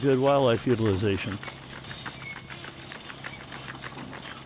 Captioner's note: seed drill clanking